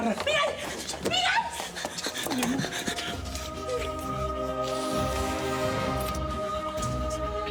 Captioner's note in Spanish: Jadeando